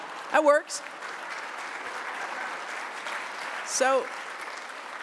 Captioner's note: laughter and applause